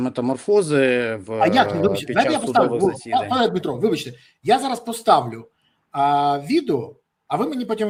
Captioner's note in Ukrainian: сміх